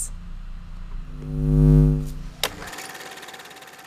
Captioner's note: buzzing; flicking